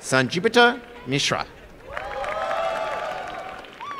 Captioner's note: cheering and applause